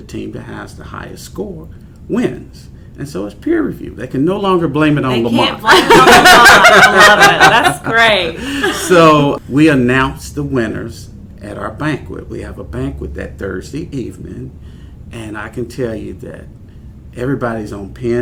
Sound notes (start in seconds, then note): 5.4 laughter